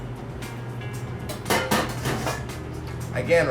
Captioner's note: clanging